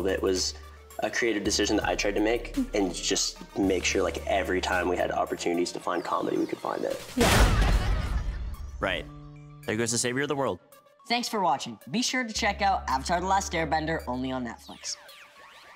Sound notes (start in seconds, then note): 7.3 children laughing; 7.3 metal banging